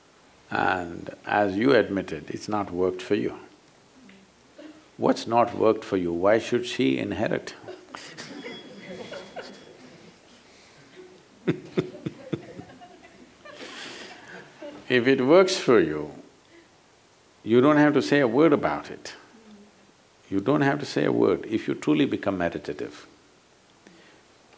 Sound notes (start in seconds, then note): 11.4 laughter